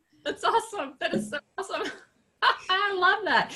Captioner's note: laughs